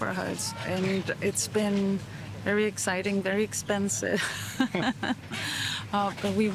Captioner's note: laughs